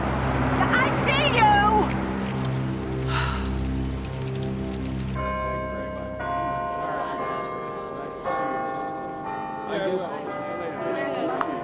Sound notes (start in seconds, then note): 3.0 sighs; 5.1 bell tolling